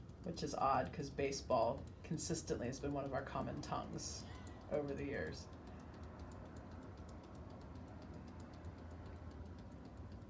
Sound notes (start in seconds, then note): 6.7 hands tapping